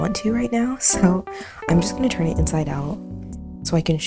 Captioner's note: none